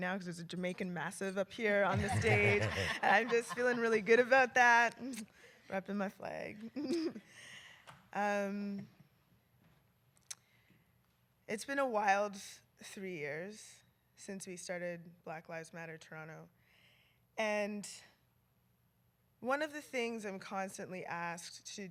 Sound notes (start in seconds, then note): 1.9 laughter